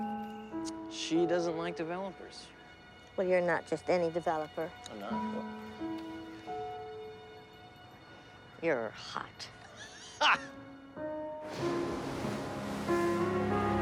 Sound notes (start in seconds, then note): 9.6 laughing